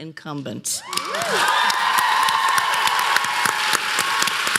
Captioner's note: applause